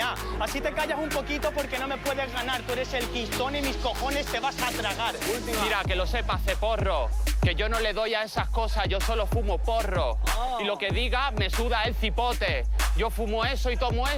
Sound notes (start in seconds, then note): 10.1 shouts